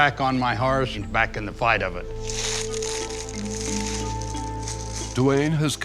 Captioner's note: leaves rustling